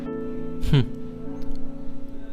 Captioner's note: chuckles